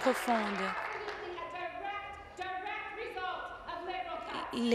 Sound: applause

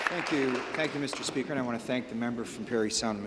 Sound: applause

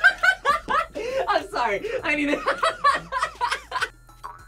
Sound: both laugh; laughs

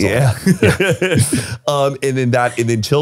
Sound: laughs

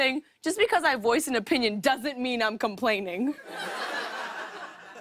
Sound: laughter

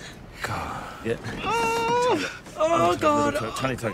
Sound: both moaning

